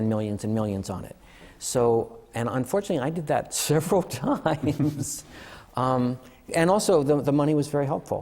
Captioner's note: laughter